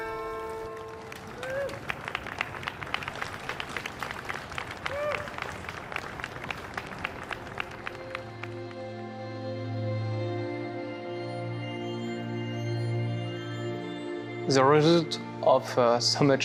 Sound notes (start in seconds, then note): 0.0 crowd applauding and cheering; 11.3 gentle music